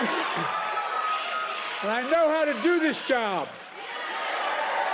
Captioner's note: applause